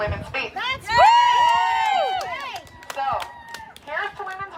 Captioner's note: cheering